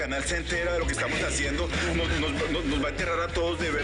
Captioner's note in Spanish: Tartamudeo